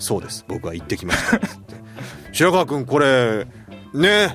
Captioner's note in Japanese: 笑い